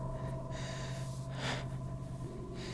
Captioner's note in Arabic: شهيق وزفير